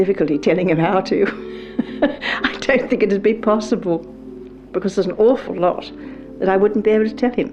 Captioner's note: laughs